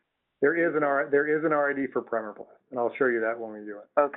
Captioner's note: voiceover